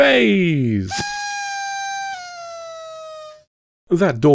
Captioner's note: party blower